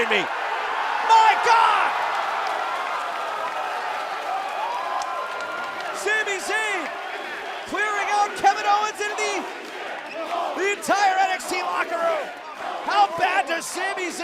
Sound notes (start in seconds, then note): 3.7 cheers & applause